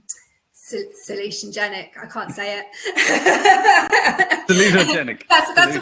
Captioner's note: laughs